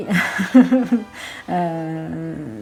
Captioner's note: giggles